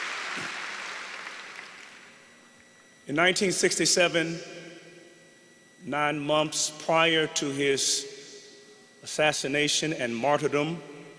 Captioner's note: applause